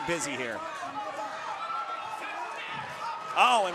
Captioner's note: audience cheering